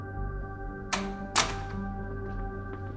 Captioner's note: door opens